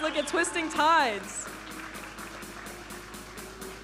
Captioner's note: audience applauding; vibrant music